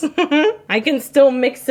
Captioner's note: laughing